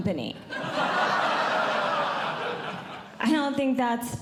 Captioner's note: audience Laughing